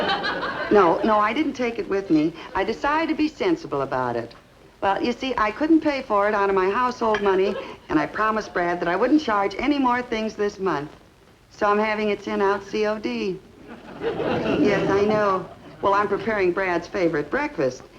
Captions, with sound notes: No, no, I didn't take it with me. I decided to be sensible about it, but you see, I couldn't pay for it out of my household money. And I promised Brad that I wouldn't charge any more things this month. So I'm having it sent out C O D. Yes I know. (audience laughs) Well, I'm preparing Brad's favorite breakfast,